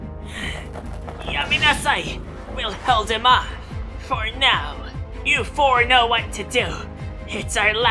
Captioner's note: panting